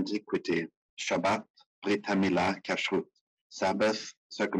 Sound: speaking in foreign language

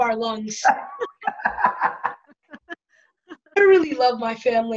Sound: laughter

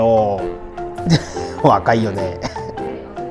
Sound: laughs

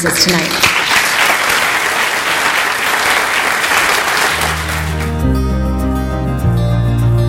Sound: audience applause

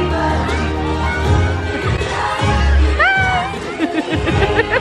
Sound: laughing

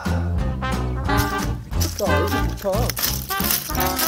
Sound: drilling the ground

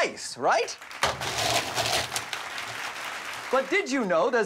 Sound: applause

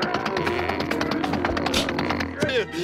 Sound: muffled yelling

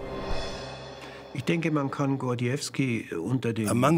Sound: speaking German

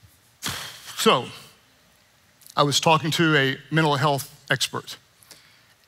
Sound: sighing

